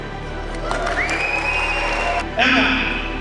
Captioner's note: crowd cheering